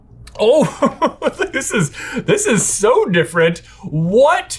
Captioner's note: laughing